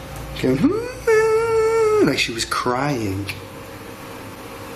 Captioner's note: humming